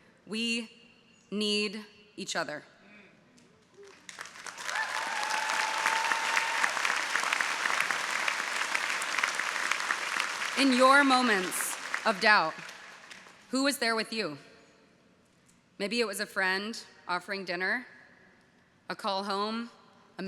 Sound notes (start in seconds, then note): 4.3 audience applauding